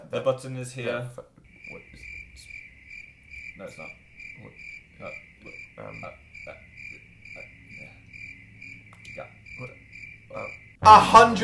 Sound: crickets chirping

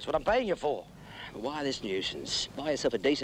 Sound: sighs

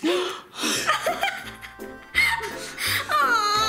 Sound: laughing

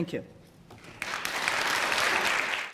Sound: applause

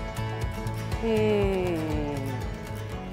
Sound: gasps

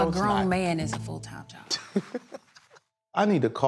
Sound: laughs

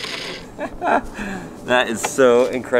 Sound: laughs

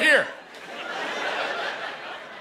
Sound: laughter

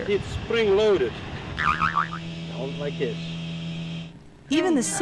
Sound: boing

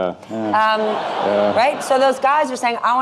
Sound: audience laughing

